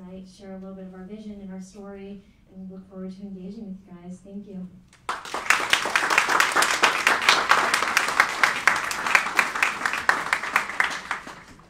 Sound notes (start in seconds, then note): 5.0 applauding